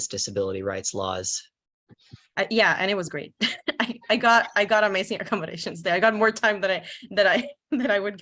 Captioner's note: laughs